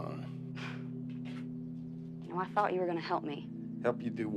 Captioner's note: Joe sighs